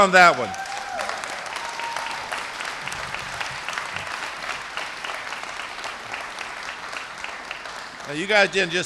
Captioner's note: applause